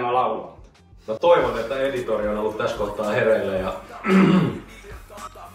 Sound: cough

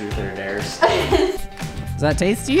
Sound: laughs

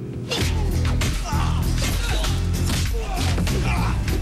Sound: men grunting

